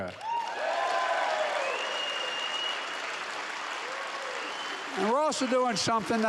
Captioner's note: applause